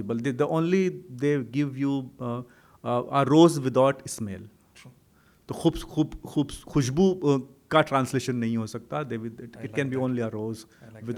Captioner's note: hindi